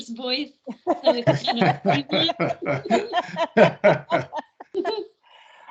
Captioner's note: everyone laughing